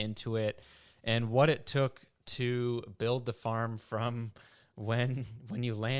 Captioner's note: laughs